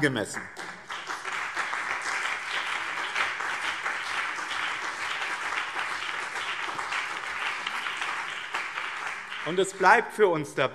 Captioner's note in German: Beifall BÜNDNIS 90/DIE GRÜNEN und CDU